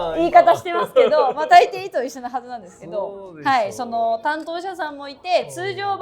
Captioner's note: laughs